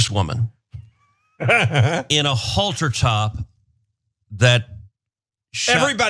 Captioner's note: laugh